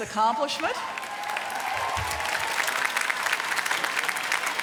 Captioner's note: applause